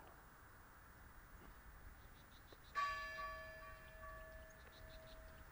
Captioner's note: bell tolling